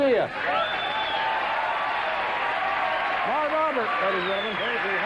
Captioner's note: cheers and applause